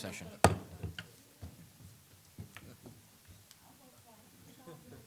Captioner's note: gavel banging